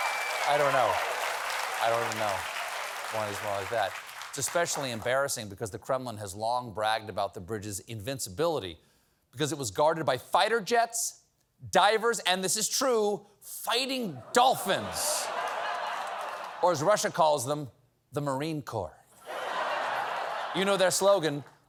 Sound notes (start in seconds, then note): 0.0 applause; 14.2 laughter; 19.2 laughter